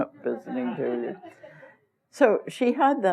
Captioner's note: laughter